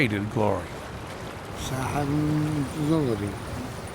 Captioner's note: non-english speech